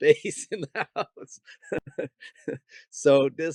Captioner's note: laughing